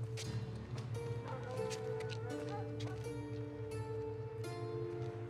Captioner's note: distant dog barks